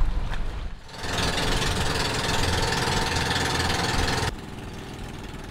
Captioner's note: motorboat engine whirring